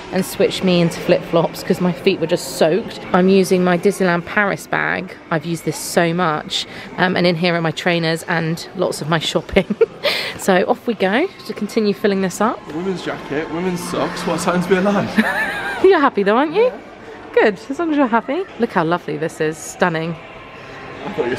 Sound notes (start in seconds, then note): 9.9 laughs; 15.0 both laugh